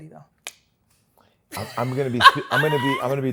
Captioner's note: clicks tongue; laughs